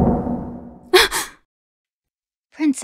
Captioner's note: gasp